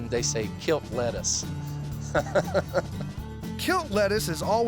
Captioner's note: chuckles